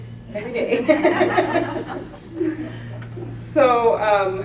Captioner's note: laughter